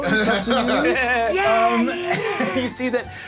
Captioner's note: laughing